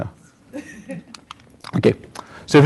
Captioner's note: laughter